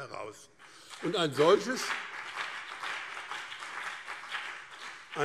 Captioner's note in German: Beifall BÜNDNIS 90/DIE GRÜNEN und CDU